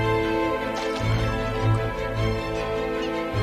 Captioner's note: water splashing